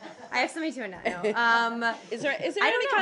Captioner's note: laughter